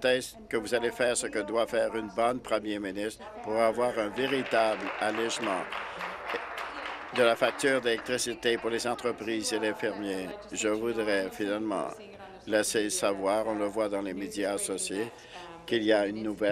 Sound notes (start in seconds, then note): 9.6 applause